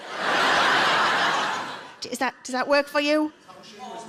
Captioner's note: audience laughs